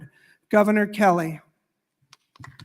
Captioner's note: applause